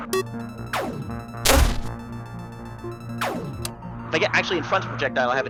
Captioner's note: in-game rapid beeping